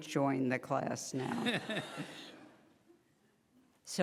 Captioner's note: laughing